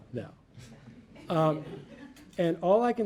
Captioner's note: audience laughing